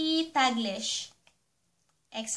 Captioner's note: Tagalog English